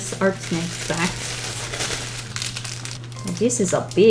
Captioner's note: tissue paper rustling